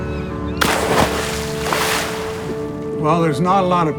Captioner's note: splash